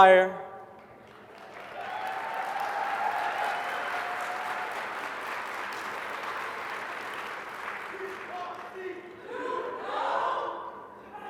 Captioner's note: applause